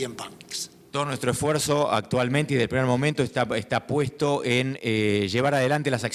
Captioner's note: speaking in foreign language